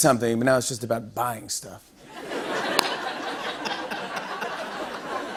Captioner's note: laughter